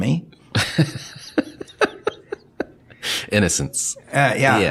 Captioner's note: laughing